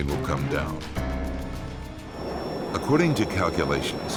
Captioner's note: dramatic music; F-16 droning